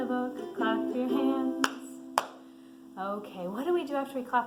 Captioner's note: someone claps